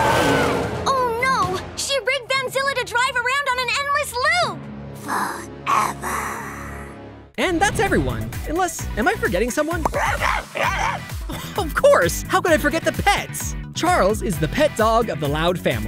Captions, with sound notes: Oh no! She rigged Van Zilla to drive around on an endless loop! Forever. And that's everyone. Unless... am I forgetting someone? [barking] Of course! How could I forget the pets? Charles is the pet dog of the Loud family.